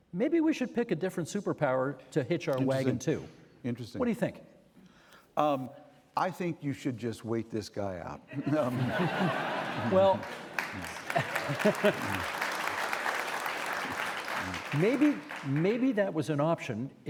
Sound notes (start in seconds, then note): 8.3 audience laughing; 11.1 audience applauding; 11.1 chuckling